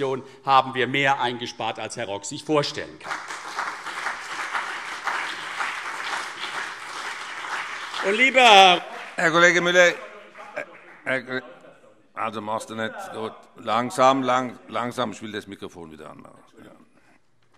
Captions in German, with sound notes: haben wir also mehr eingespart, als sich Herr Rock vorstellen kann. (Beifall CDU und BÜNDNIS 90/DIE GRÜNEN) Herr Kollege Müller - - (Zuruf) - Machst du nicht, gut. Langsam. Ich will das Mikrofon wieder einschalten.